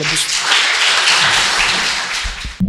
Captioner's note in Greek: Χειροκρότημα